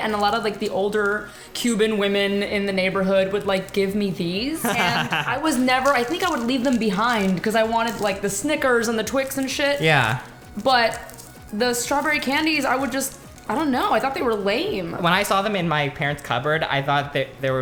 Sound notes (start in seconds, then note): 4.6 laughs